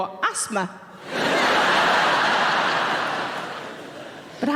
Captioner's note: audience laughing